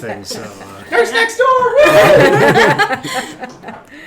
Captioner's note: cheering; laughing